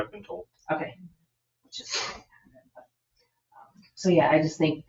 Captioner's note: speaks distantly